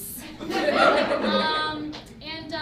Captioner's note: audience laughs